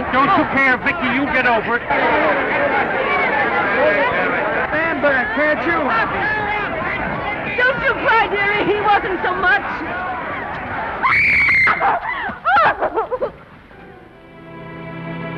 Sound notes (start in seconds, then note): 11.0 Esther screams, cries